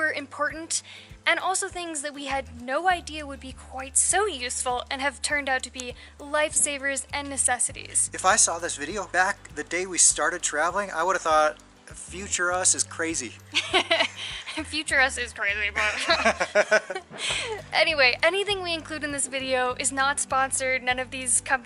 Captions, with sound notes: important. And also things that we had no idea would be quite so useful, and have turned out to be lifesavers and necessities. If I saw this video back the day we started traveling, I would have thought future us is crazy! [Laughter] Future us is crazy. [Laughter] Anyway, anything we include in this video is not sponsored. None of these companies